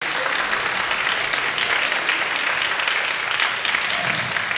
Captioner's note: audience applauding